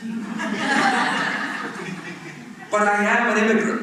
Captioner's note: laughter